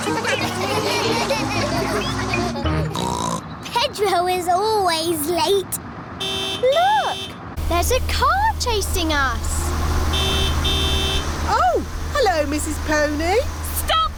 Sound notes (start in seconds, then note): 0.0 laughter; 2.8 snorts; 8.5 horn honks; 9.5 honking continues